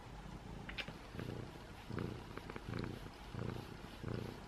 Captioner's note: loud purring